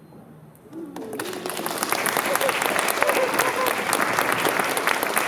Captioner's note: applause